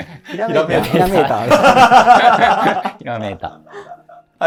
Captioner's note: laughing